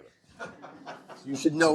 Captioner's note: laughter